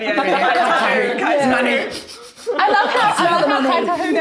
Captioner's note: sniffs